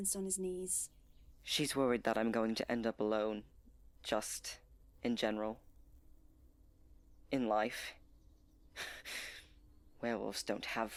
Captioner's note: he laughs dryly